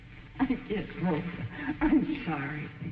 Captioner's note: sighing